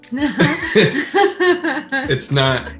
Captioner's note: laughter